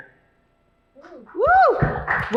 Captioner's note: applause